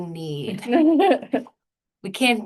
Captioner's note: laughter